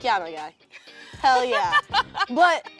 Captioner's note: laughing